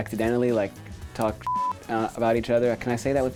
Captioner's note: beep